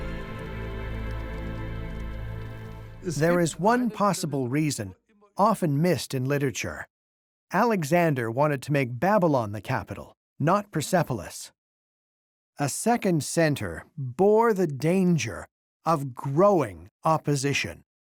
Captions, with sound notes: [in German] There is one possible reason, often missed in literature. Alexander wanted to make Babylon the capital, not Persepolis. A second center bore the danger of growing opposition.